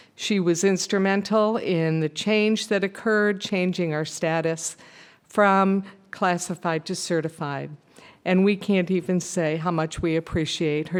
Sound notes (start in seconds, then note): none